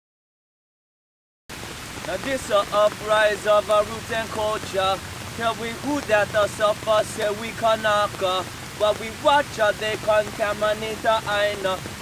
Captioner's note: sounds of heavy rain